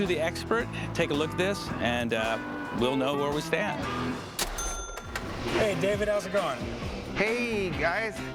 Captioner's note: none